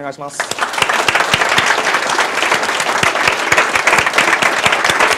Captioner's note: applause